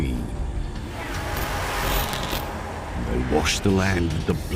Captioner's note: hissing